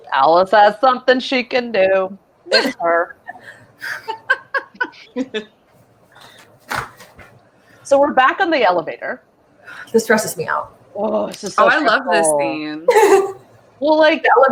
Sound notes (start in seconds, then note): 3.8 all laughing; 9.8 sighs